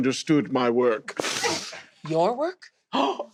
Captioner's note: inhales